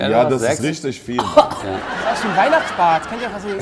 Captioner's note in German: Husten